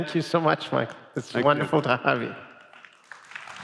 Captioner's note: applause